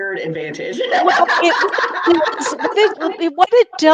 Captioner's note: laughs